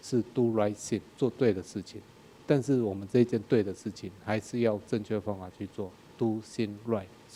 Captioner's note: speaking in a foreign language